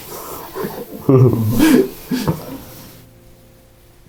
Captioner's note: laughing